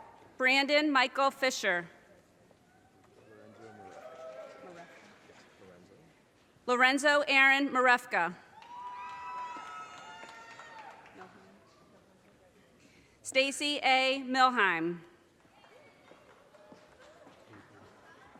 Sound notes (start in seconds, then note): 3.5 audience cheers and applause; 8.5 audience cheers and applause; 15.6 audience applause